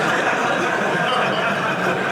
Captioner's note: audience laughing